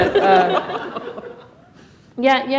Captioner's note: laughter